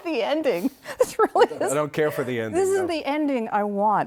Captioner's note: laughter